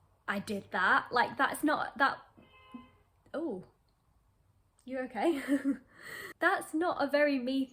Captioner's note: car horn blares